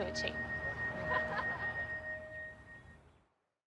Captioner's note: laughter